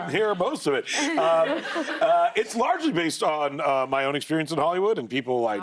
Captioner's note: laughter